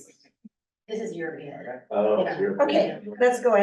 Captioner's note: muffled voice